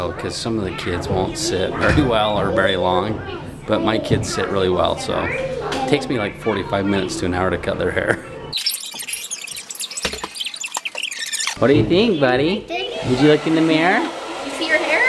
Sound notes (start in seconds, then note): 8.5 screeching